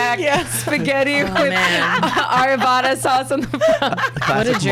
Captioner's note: laughs